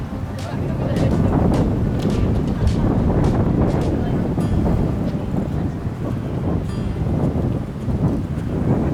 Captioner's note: wind Blowing